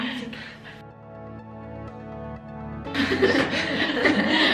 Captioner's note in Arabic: الكل يضحك